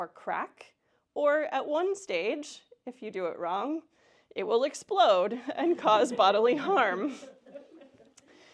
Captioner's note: laughter